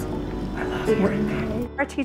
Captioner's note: whispers response